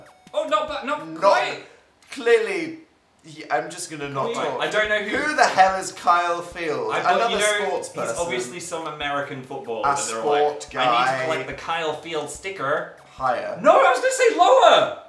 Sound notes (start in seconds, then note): 10.7 American accent